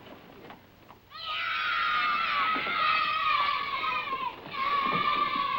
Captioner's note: children cheering